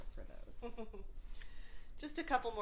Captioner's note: laughs